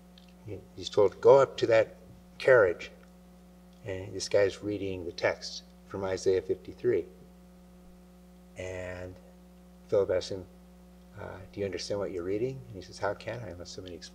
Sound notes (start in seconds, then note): none